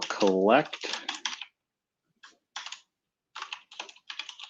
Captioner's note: typing